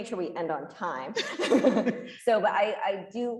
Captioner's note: group laughing